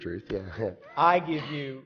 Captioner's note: laughs